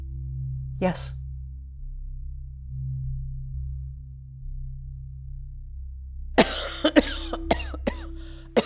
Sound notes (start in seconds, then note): 4.7 coughing